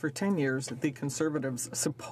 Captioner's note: speaking french